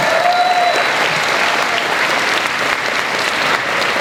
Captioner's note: crowd cheers and applauds